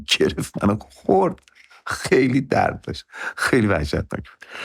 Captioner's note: laughs